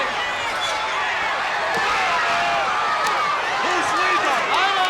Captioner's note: crowd cheering